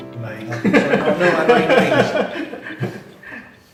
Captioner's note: laugh